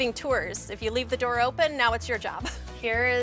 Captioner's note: laughs